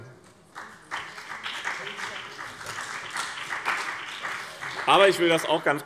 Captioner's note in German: Beifall BÜNDNIS 90/DIE GRÜNEN und vereinzelt CDU